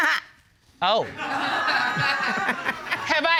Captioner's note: audience laughing; laughs